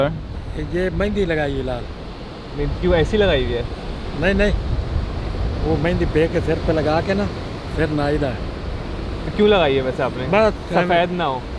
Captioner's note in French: Langue locale